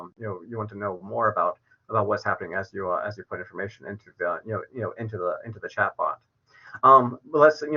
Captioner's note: verbal stutters